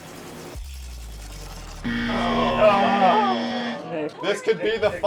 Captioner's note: buzzer